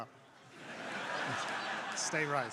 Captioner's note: crowd laughing